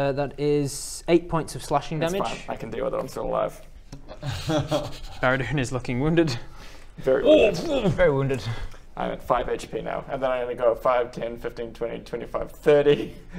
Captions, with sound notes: that is 8 points of slashing damage It's fine, I can deal with it, I'm still alive *nervous laughter* Baradun is looking wounded Very wounded very wounded I have 5 HP now and then I'm gonna go 5-10-15-20-25-30